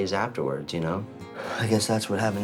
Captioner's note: sighs